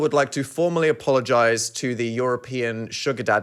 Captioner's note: none